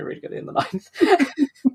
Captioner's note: laughs